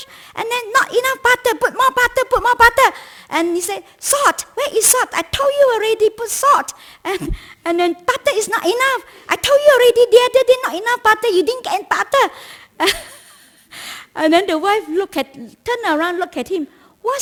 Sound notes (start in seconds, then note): 12.8 laughs